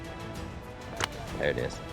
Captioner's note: whip cracks